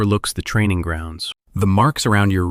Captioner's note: thoughtful